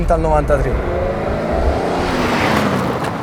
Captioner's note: engine and turbo sound